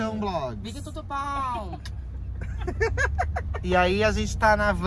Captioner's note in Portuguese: risos